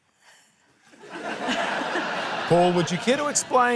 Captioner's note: laughter